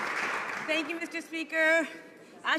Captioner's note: some Applause